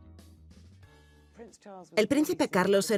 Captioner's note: voiceover